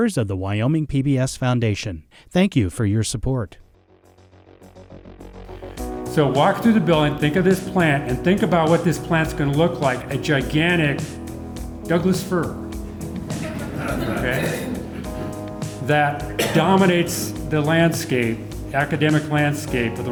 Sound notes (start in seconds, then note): 4.1 upbeat music; 12.8 audience laughing